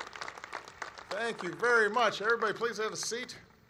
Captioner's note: applause